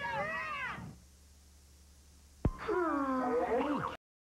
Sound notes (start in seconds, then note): 2.5 both Sigh